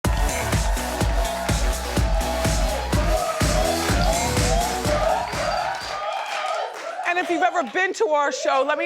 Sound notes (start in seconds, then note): 0.0 upbeat music; 0.0 audience cheering